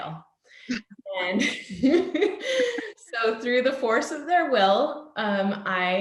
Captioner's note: laughs